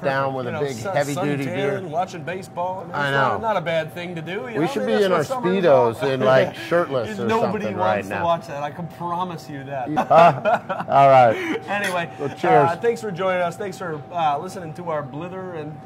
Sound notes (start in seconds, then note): 9.9 both laughing